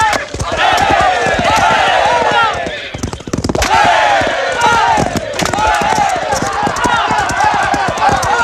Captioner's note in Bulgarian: аплодисменти